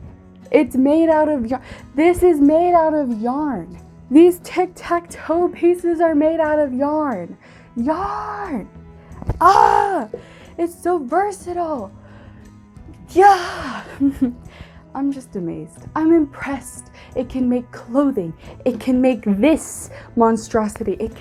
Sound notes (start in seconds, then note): 9.0 exited yell growl; 13.2 more happy noises